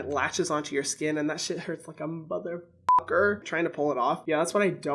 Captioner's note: beeps